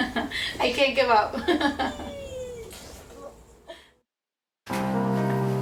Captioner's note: laughs; daughter squeals; urgent music